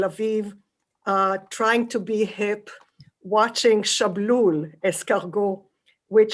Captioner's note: non-english